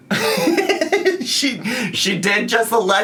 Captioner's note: laughs